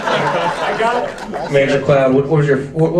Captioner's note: audience laughs